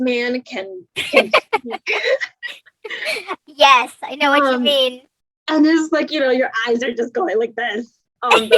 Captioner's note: laughs